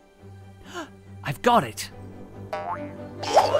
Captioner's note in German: Luft schnappen